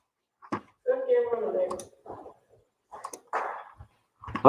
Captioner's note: people talking